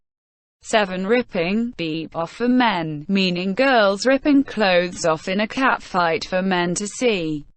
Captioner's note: beep